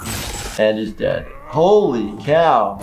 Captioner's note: electric shock